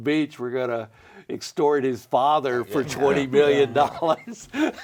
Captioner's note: laughs